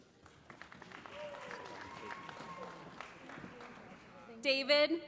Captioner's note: applause